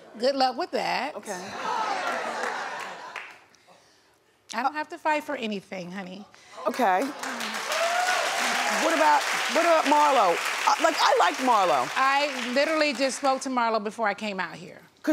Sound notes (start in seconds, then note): 1.3 audience laughs; 7.2 audience cheers